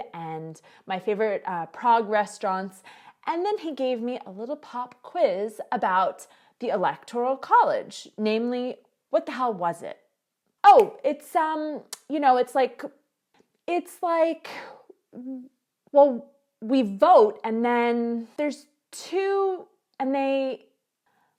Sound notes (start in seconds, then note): 11.4 fingers snap